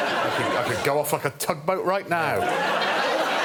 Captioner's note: laughter